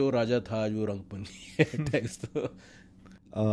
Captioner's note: laughs